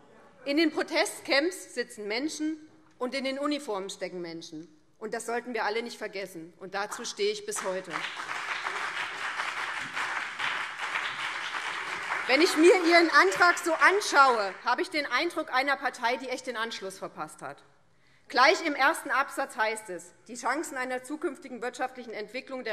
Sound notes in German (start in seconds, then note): 7.5 Beifall BÜNDNIS 90/DIE GRÜNEN und vereinzelt CDU